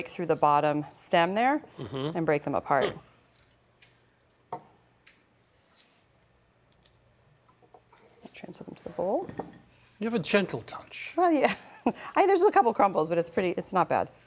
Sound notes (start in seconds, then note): 11.1 laughing